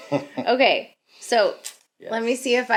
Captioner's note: laughs